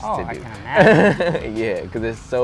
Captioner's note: laughs